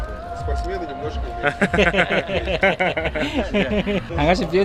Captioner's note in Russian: смеется